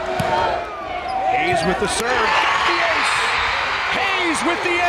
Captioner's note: crowd cheering